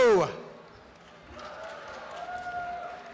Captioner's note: applause and cheering